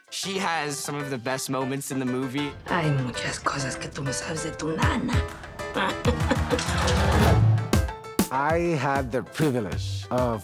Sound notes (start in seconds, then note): 2.5 in Spanish; 4.9 chuckles